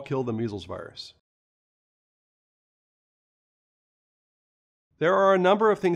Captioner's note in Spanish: Sin audio